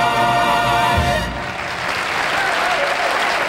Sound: audience applauds

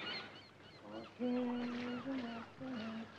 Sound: hums to himself

